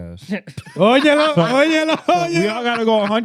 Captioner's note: speaking In Foreign Language